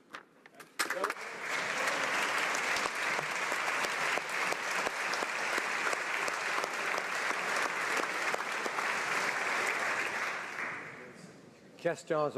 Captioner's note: applause